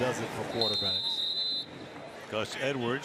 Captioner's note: whistle